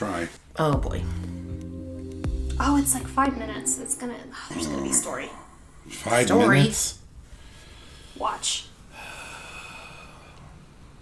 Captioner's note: dramatic sigh